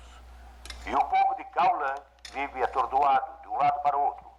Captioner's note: gunfire And Shouting On TV